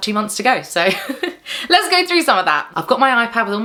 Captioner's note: chuckles